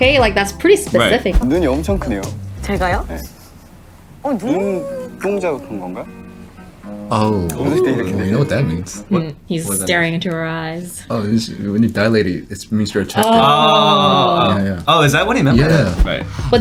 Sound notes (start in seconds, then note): 1.4 speaking in Korean; 11.3 faintly speaking